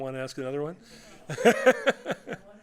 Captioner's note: laughter